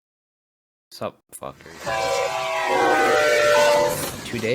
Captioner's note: train noises